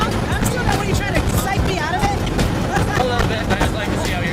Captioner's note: laughs